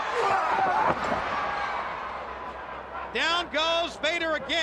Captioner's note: crowd chattering